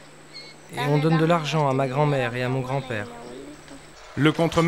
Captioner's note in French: Audio parlé en espagnol